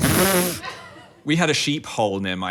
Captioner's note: laughs